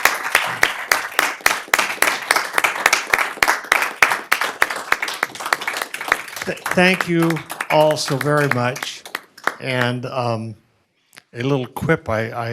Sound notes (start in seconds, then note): 4.9 applause